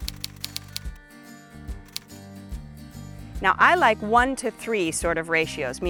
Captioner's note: typewriter keys clicking